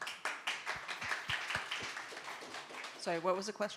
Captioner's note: audience applauding